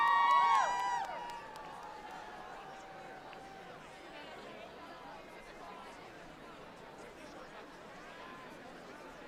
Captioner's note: applause